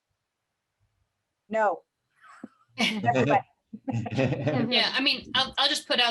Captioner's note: laughter